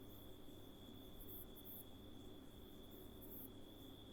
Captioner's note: none